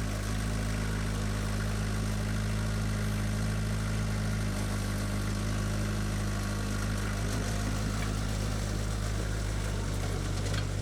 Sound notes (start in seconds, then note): none